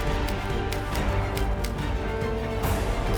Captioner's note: typewriter clicking